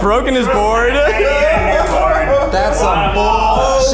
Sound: laughs; laughing

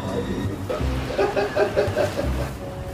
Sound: laughing

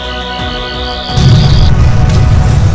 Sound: explosion

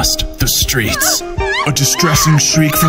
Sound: women screaming

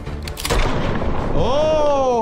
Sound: gun firing

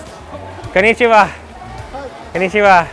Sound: speaking in foreign language

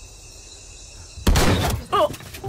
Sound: gunshot

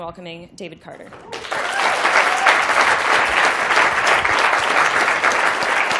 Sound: applause

